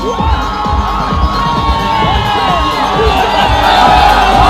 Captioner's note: audience cheering